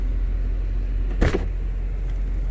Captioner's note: door opens